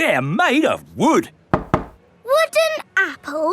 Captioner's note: knocks